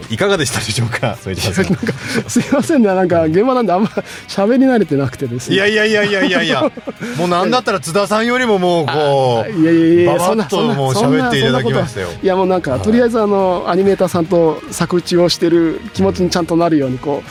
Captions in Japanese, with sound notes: いやいやいやいやいやいや、もうなんだったら津田さんよりももうこう [笑い] いやいやいやもう喋っていきましたよ。 いや、もうなんかとりあえずあのアニメーターさんと作をしてる気持ちにちゃんとなるようにこうそれだとなんか喋りがそれなり伝えないとなというあの気持ちで言えるので